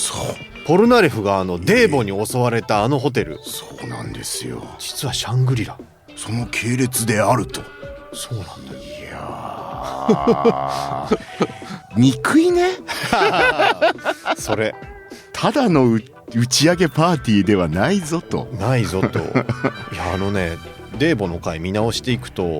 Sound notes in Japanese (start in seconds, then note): 12.6 笑い